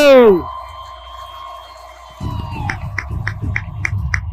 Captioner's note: audience cheers